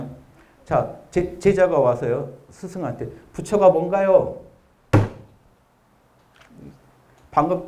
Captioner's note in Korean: 탕!